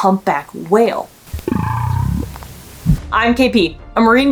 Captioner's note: humpback whale vocalizing